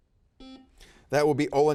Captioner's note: buzzer beeping